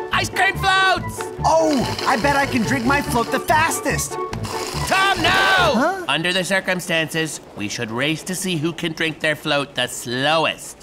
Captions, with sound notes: -Ice-cream floats! -I bet I can drink my float the fastest! -[slurp] -Tom, no! Under the circumstances, we should race to see who can drink their float the slowest.